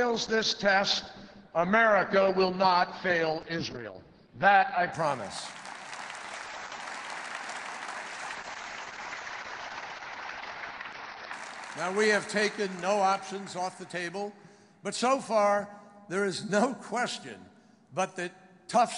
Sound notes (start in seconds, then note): 7.3 applause